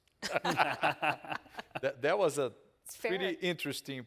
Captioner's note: all laughing